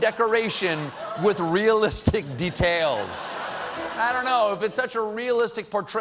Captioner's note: laughter